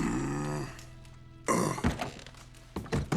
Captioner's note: grunt